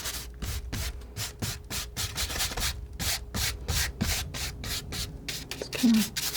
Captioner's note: scratching